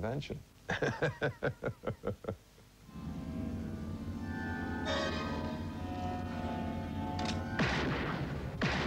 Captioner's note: laughs